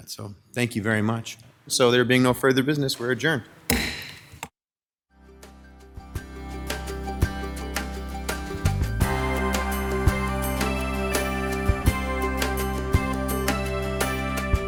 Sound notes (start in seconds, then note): 3.6 gavel clacks; 6.3 easy going, bright synthesizer music